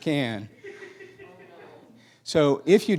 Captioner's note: laughing